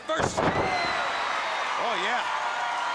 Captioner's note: audience cheering